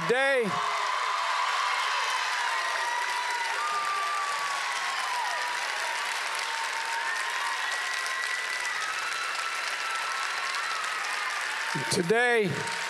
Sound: applause

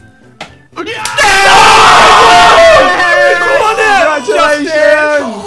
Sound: celebrating

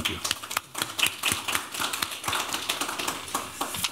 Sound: applause

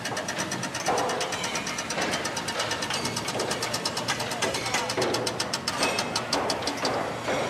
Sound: hammering and different construction noises

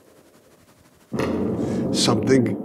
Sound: bombs continue to drop

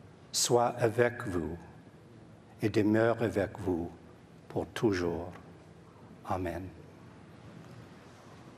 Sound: speaking French

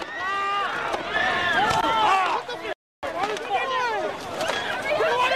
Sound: screaming and shouting

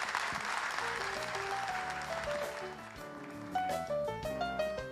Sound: applause

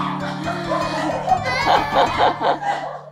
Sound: crying

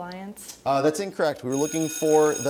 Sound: buzzer sounds

